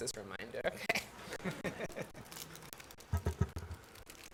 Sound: laughs

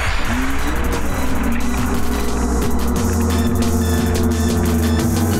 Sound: screaming and cheering; slowed screaming and cheering

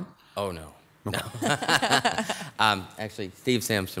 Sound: laughs

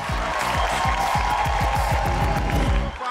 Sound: cheering, applauding

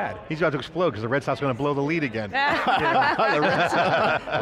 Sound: laughing

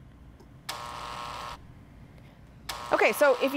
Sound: buzzing

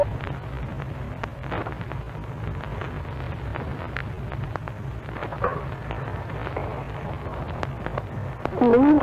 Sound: static

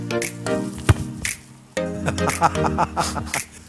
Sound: lacht

